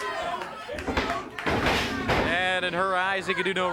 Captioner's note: blows thudding; body thudding; blows thudding